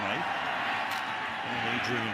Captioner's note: pa announcement